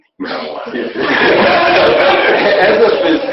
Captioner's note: laughing